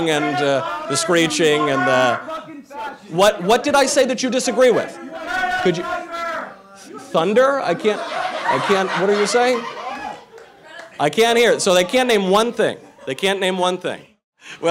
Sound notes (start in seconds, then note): 4.4 protestors shouting; 9.7 crowd laughing